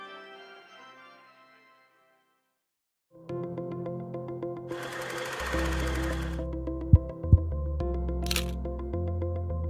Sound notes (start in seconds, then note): 3.4 lively music; 4.8 film reel clicking